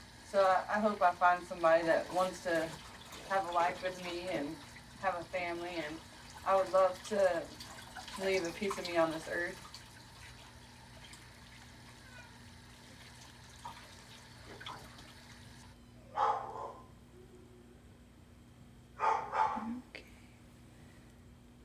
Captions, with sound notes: So I hope I find somebody that wants to have a life with me and have a family and I would love to leave a piece of me on this earth. (cat mewing) (dog barking) You're okay.